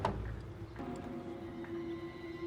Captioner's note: none